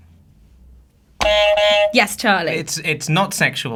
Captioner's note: buzzer honks